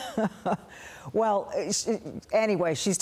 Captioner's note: laughter